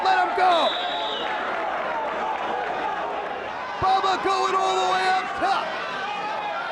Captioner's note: applause